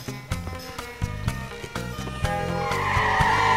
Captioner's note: police sirens wailing; tires screeching